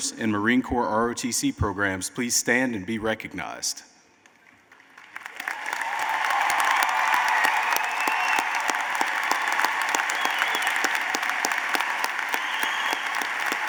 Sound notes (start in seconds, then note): 4.3 applause